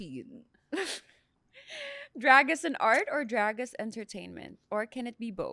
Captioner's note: laughs